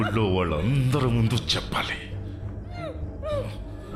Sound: whispering

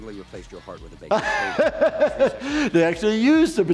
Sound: laughing

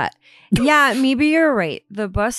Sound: snickers

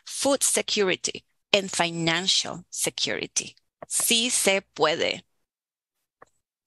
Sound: speaking Native Language

